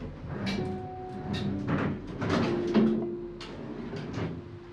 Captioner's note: drawer opening